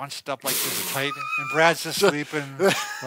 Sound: laughs

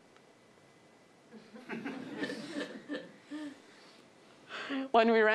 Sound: laughing

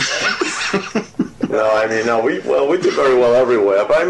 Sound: interviewer laughs

